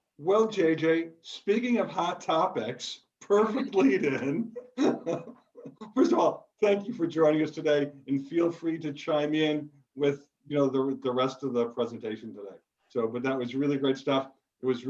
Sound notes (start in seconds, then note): 5.1 laughs